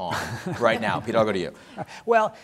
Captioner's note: laugh